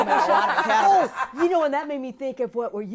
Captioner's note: laughing